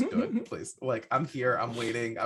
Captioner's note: laughing